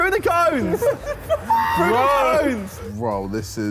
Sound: all laughing

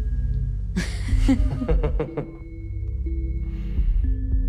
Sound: both Laugh

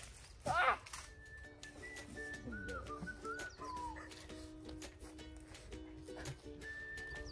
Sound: laughs

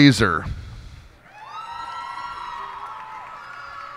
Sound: cheers and applause

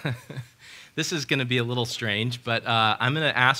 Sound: laughs

